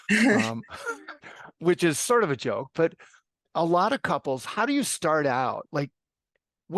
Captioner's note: laugh